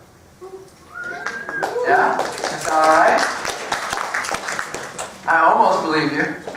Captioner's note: applause